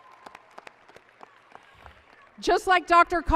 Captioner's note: applause